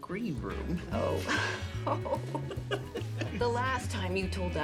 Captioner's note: friends laughing